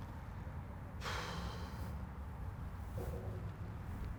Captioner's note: sharp exhale